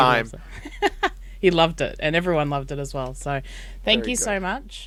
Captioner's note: laughs